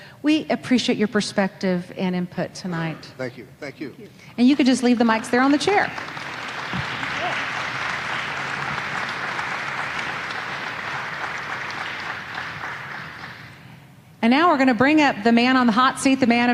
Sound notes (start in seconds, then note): 6.3 audience applauding